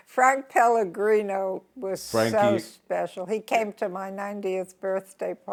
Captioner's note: laughs